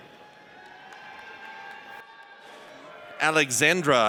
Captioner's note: audience cheers